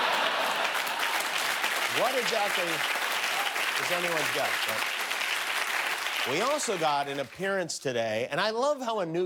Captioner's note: laughter; cheers and applause